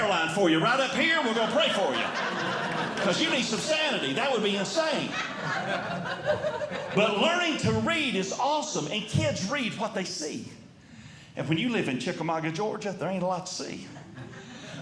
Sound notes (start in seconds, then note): 1.0 audience Laughing